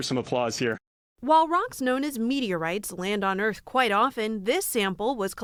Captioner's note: voice-over